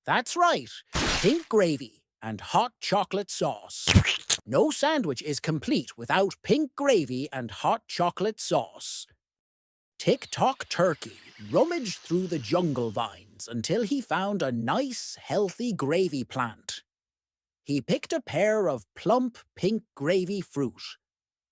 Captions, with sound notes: That’s right – pink gravy, and hot chocolate sauce. [splat] No sandwich is complete without pink gravy and hot chocolate sauce. Tick Tock Turkey rummaged through the jungle vines until he found a nice, healthy gravy plant. He picked a pair of plump, pink gravy fruit.